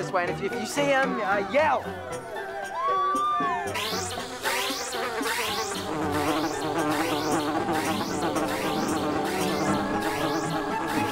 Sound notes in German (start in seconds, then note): 2.6 Leute schreien aufgeregt; 3.9 Signal ertönt; 3.9 summend; 5.9 lautes Summen